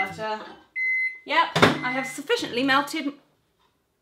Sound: microwave beeps

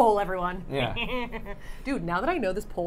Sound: Safiya laughing

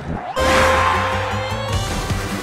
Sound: starting sound; counting sound

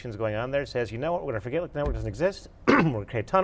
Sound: coughs

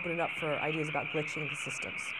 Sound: swirling static sound

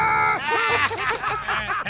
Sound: toys laugh

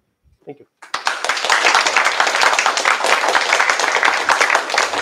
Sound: applause

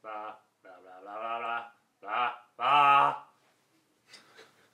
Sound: murmurs

